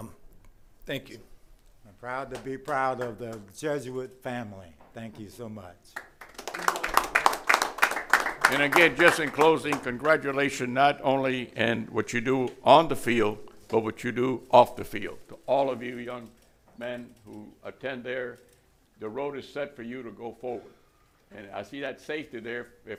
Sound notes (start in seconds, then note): 9.2 applause